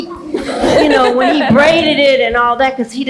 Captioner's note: laugh